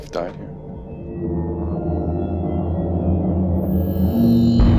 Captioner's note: eerie sounds